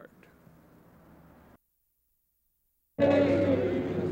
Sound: silence; protester's singing

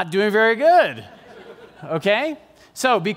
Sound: laughter

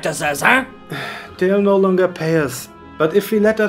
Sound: sigh

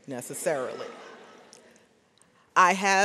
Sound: audience laughs

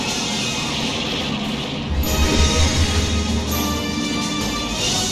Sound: shooting

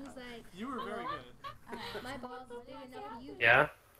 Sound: foreboding cackling

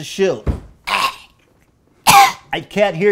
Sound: stomp!; Ethan Klein Cough ™

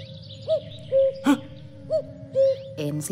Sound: cockoo, cockoo

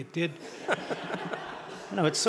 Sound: audience laughing

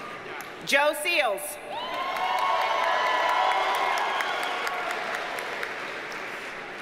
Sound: audience cheers and applauds

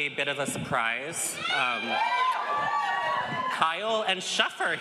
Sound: audience cheers

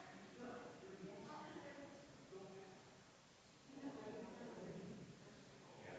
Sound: people chattering distantly continues

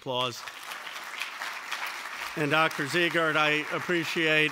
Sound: applause

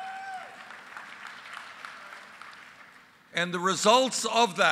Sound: applause

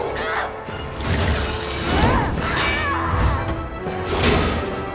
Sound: screaming

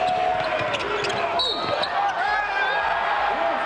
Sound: whistle blows; applause

